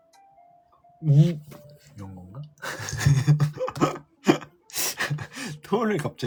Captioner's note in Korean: 웃음